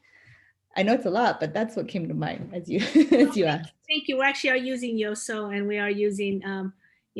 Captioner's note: laughter